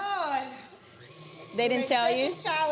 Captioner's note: mixer whirring